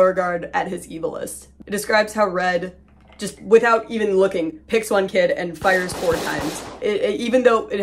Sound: four gunshots

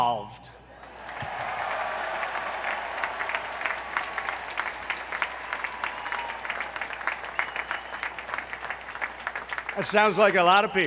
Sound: applause

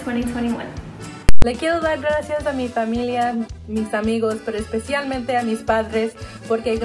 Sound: speaks in foreign language

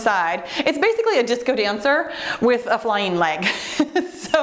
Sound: laughs

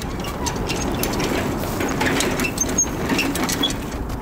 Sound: rattling

